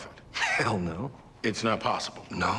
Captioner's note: scoffing